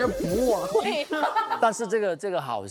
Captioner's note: laughs